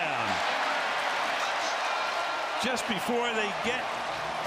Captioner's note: cheers, applause